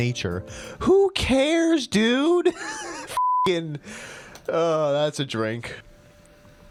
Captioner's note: laughter